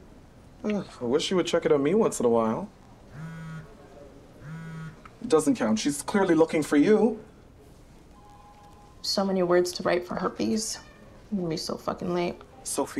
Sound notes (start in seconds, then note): 4.4 phone buzz